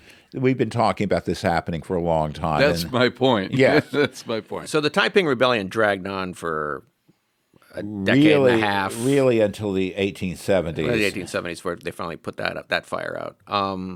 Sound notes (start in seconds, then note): 3.5 laughs